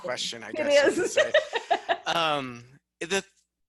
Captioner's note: laughs